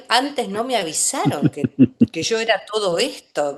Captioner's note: laughs